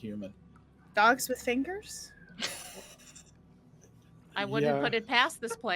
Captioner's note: laughing